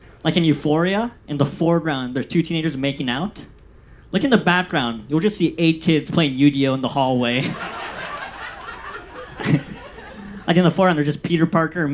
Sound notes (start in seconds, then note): 7.4 audience laughs